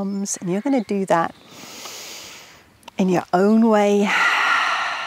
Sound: exhales

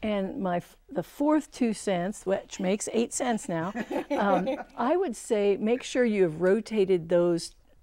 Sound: laughing

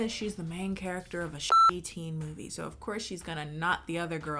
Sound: beep

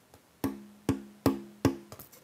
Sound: dull knocking

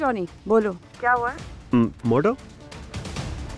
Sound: Sakshi on phone

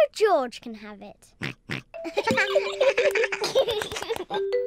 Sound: oinks; all giggling

